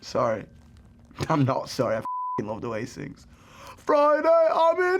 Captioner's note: beep; singing